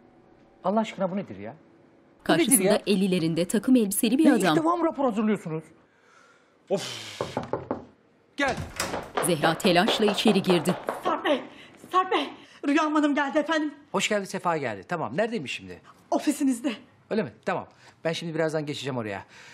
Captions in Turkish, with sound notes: Allah aşkına, bu nedir ya? Bu nedir ya? Ya ilk defa mı rapor hazırlıyorsunuz? Off! (Kapı tıklama sesi) Gel. Sarp Bey! Sarp Bey! Rüyam Hanım geldi efendim. Hoş geldi sefa geldi. Tamam. Neredeymiş şimdi? Ofisinizde. Öyle mi? Tamam, ben şimdi birazdan geçeceğim oraya.